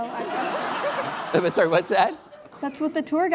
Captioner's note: laughing